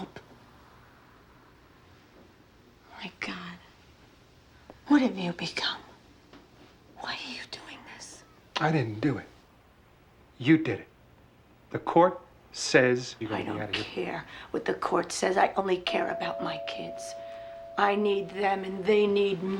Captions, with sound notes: My God, what have you become? Why are you doing this? I didn't do it. You did it. The court says you gotta get out of here... I don't care what the court says. (DOORBELL RINGS) I only care about my kids. I need them, and they need me.